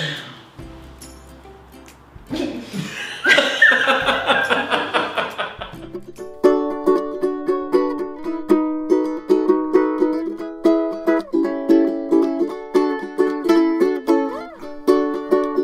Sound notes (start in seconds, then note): 2.3 both laughing; 6.3 upbeat ukulele music